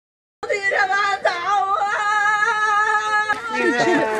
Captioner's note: woman crying and grieving